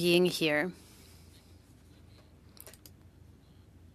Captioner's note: speaking French